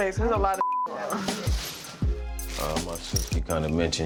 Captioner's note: beep